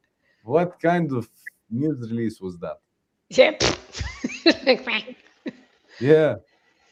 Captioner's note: laughter